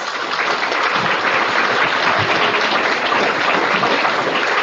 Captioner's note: audience clapping